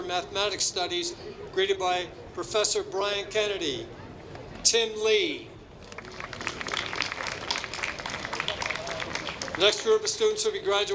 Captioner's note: applause